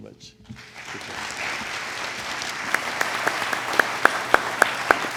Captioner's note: audience applauds